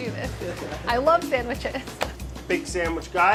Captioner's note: laughs